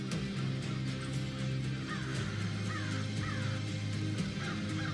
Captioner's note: suspenseful music continues; crows cawing; suspenseful music continues